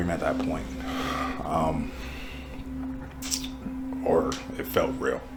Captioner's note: sighs